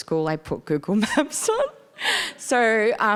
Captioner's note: laughing